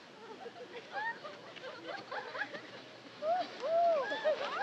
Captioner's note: woman laughing